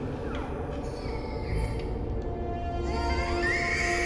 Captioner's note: baby crying